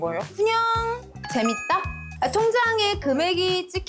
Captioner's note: number game sound effect